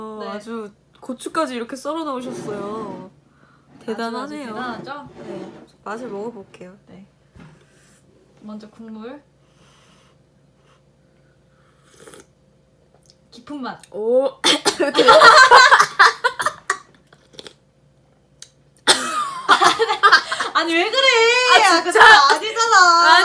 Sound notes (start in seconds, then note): 11.8 slurp; 14.4 cough